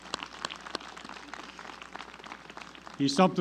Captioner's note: applause